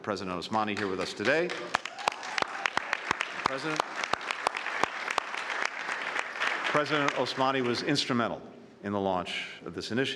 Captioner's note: cheers and applause